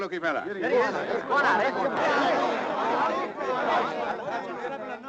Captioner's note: people chattering